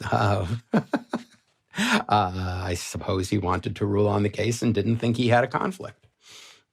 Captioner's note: laughs